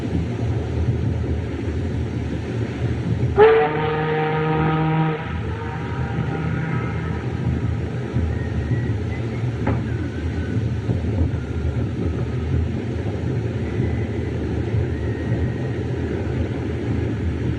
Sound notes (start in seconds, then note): 3.3 ship's Horn Blows